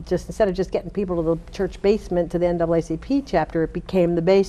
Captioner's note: none